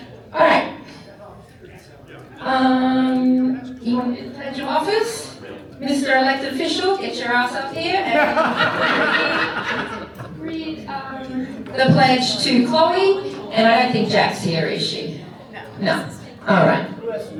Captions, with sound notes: [crowd chattering] Alright. [crowd chattering] Do you want to invite your office? Mr. Elected official, get your ass up here and we read the pledge to Chloe and I think Jack's here, is she? No. No? Alright.